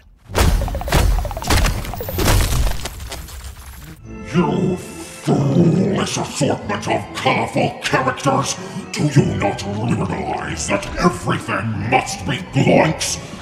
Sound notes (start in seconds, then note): 0.2 blows thudding